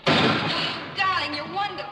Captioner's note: crash